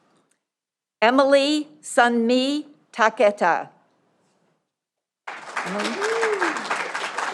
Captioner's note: audience applauding